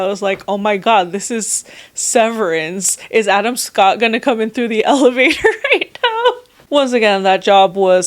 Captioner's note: laughs again